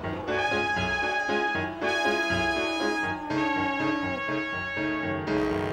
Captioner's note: lion moaning